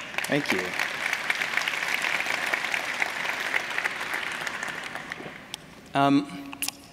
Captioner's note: applause